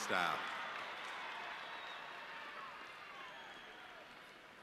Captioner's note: audience cheering